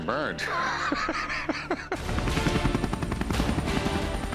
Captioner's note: laughs; helicopter rotor whirring